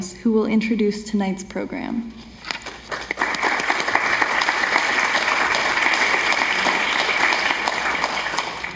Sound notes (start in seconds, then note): 2.8 audience applauding